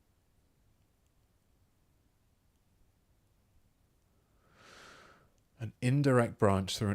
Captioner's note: silence